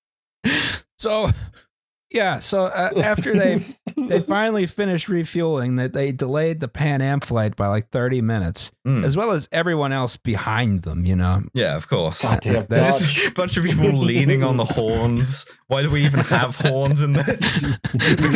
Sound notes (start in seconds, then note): 2.7 laughs; 15.6 laughter